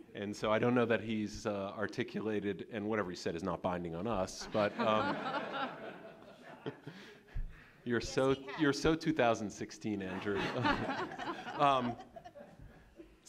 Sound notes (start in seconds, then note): 4.5 audience laughing; 10.1 laughing continues